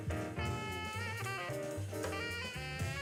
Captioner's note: none